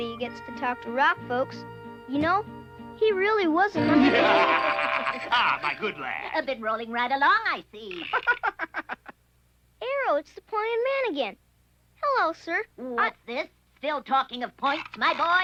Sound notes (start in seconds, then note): 3.8 laughing; 8.3 laughs